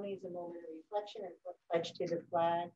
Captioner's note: faintly speaking